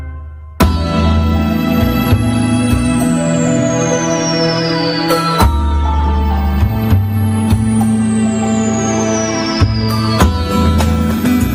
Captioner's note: sounding gavel